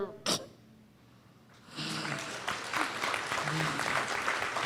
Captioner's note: audience claps